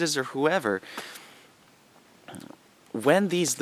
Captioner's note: pause